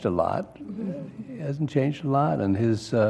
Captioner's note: laugh